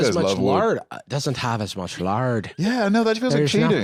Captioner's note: Scottish